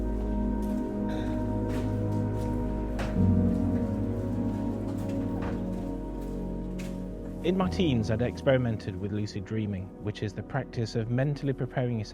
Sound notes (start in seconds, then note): 0.0 shop ambience